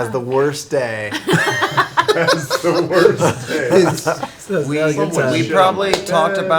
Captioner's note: laughing; laughs